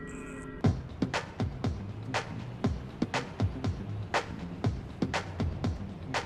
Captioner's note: upbeat music plays; sounds of street traffic